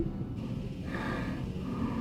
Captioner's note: breathing hard